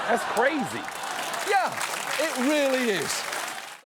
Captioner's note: studio audience laughs, claps